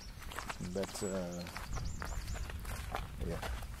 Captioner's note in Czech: Zvuk kroků